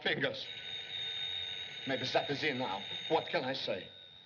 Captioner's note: ringing